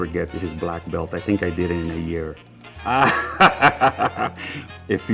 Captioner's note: laughing